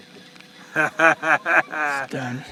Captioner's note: laughter